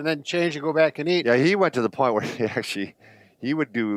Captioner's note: chuckles